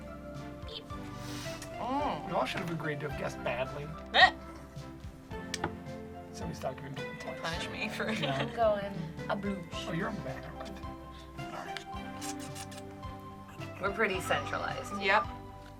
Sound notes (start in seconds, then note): 4.3 laughs; 8.0 laughs; 11.6 smacks lips